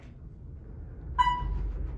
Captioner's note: elevator beep